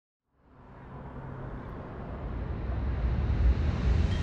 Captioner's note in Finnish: Liikenteen ääntä